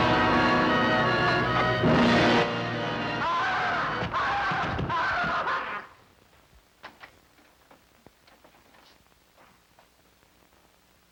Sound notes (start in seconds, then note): 3.2 Mike screaming